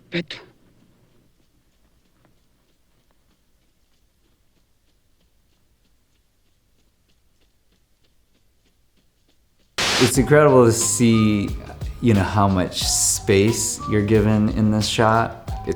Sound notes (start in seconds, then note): 0.1 speaks in foreign language; 6.9 sand rasping; 9.8 screen buzzes